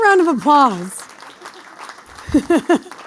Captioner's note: applause